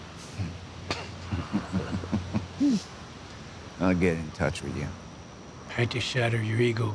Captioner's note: chuckles